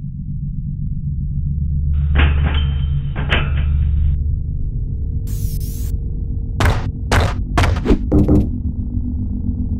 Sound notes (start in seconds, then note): 1.6 crashing; 7.0 whoosh, Banging; 7.5 stomping